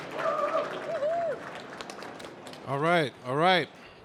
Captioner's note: cheering